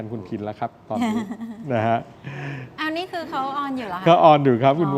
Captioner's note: laughter